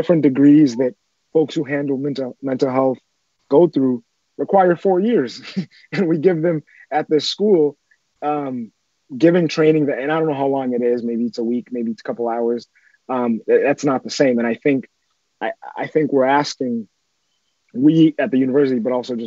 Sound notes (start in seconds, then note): 5.3 giggles